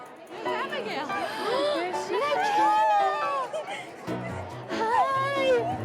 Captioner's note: gasps